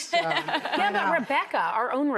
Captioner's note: laughing